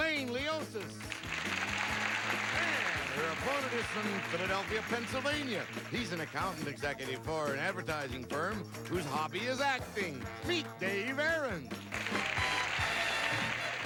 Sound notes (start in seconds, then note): 1.0 audience applauding